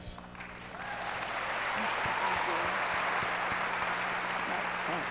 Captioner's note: audience applauds